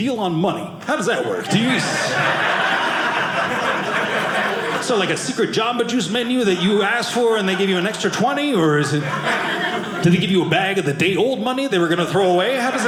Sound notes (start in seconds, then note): 2.1 audience laughing